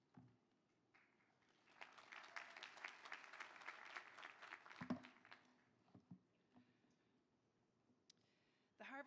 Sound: applause

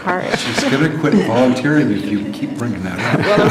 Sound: laughter

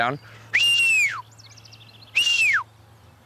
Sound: whistles

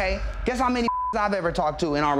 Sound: beep

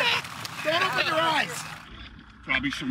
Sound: splashing

